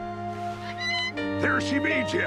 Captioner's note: Captain Flint squawking